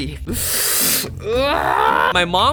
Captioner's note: screeeeech